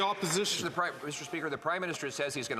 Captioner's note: some Applause